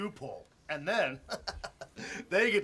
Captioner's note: chuckles